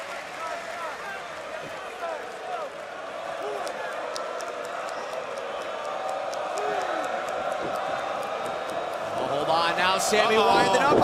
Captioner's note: crowd cheering